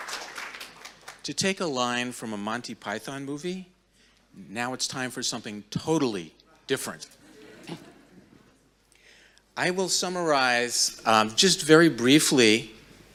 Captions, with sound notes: - To take a line from a Monty Python movie, now it's time for something totally different. (audience chuckling) I will summarize just very briefly